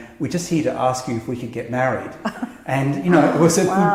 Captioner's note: laugh